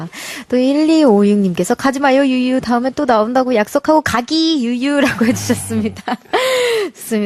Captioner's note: crying